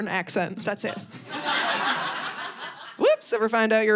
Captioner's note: audience laughing